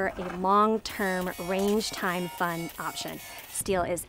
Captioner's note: steel clanking